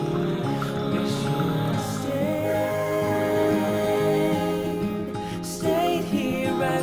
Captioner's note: laughs